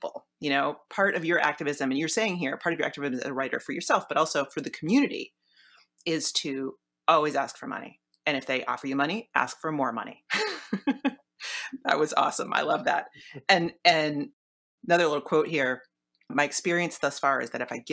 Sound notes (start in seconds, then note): 10.8 laughs